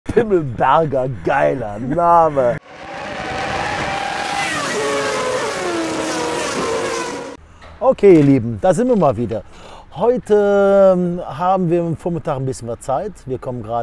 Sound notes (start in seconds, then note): 2.6 engine sounds